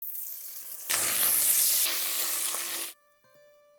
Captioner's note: sizzling sound